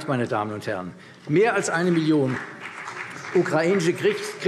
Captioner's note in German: Vereinzelter Beifall CDU und BÜNDNIS 90/DIE GRÜNEN